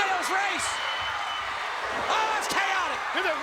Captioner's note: crowd cheers